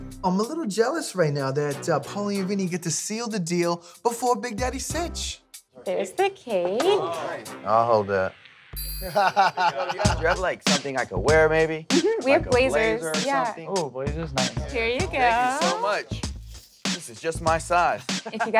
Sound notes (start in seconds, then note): 9.1 laughs